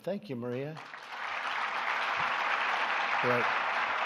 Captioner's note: applause